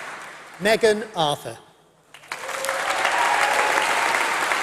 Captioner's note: applause